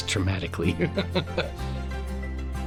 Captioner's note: laughs